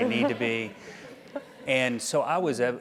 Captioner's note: laugh